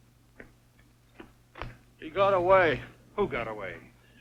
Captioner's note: none